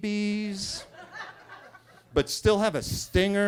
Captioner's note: attendees laughing